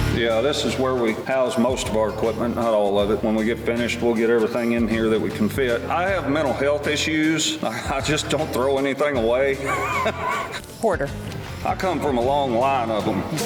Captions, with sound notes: - Yeah, this is where we house most of our equipment not all of it. When we get finished, we'll get everything in here that we can fit. I have mental health issues (chuckles) I just don't throw anything away (laughs) - Hoarder. - I come from a long line of them.